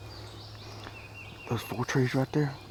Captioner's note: birds chirping